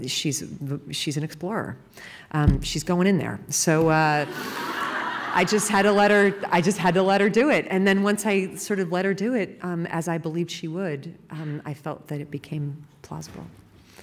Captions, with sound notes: She's - she's an explorer. She's going in there. ( laughing ) So I just had to let her do it. And then once I sort of let her do it, as I believed she would, I felt that it became plausible.